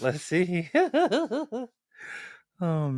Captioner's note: laughter